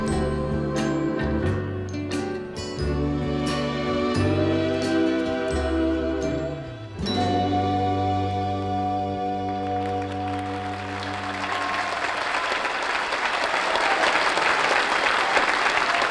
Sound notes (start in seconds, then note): 0.3 mellow music; 6.6 music fades; 9.6 audience applauds